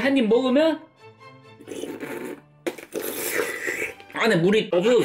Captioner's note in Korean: 오도독